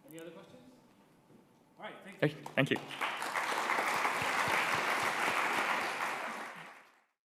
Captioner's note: applause